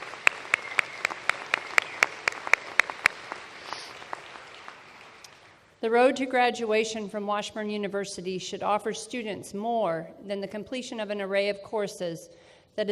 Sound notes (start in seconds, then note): 0.0 applause